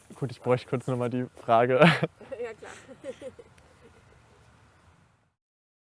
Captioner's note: laughter